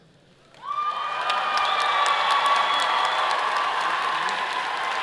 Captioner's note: audience cheers and applause